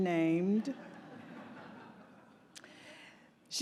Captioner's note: laughter